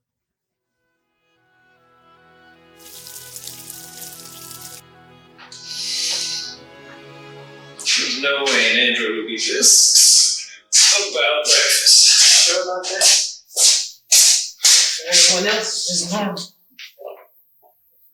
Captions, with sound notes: (Soft music plays) (Bacon Sizzles) (Soft music) There’s no way an android would be this excited about breakfast. You’re sure about that To everyone else it’s just normal.